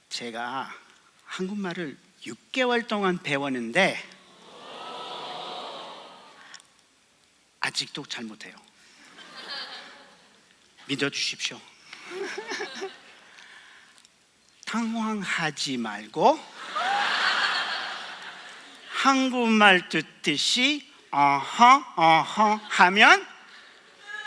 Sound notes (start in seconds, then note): 9.2 laugh; 12.1 laugh; 16.6 laugh